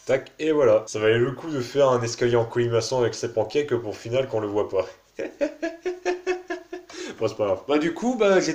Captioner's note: laughs